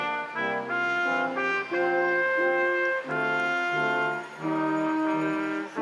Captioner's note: instrumental music continues; crowd applauding